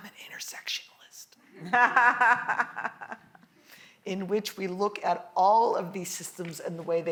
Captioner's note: laugh